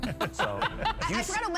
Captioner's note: all laughing